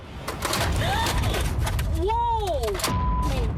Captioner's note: gasps